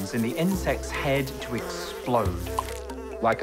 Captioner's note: flies buzzing, corn popping